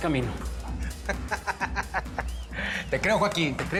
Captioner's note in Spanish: Risas